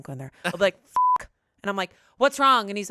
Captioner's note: beep